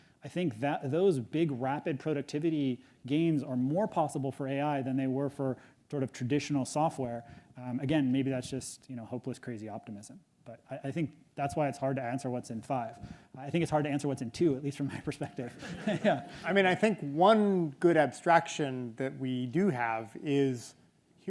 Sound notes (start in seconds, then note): 15.4 audience laughs